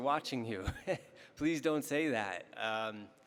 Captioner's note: laughing